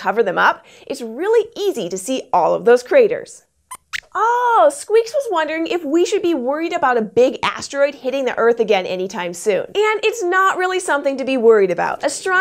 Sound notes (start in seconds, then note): 3.7 squeaks squeaks